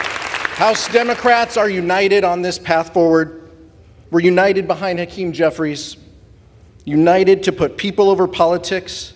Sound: applause

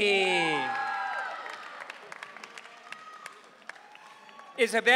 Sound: audience cheering

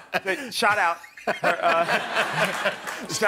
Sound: laughter

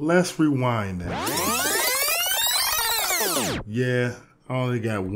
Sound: disc screeches

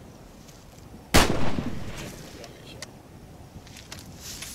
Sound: gunshot

